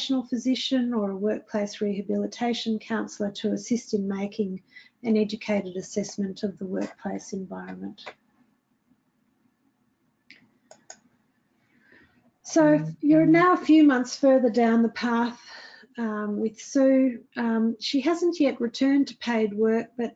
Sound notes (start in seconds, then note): 10.6 mouse clicking